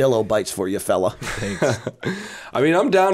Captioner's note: chuckle